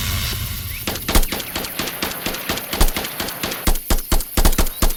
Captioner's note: explosion booms; gun blasting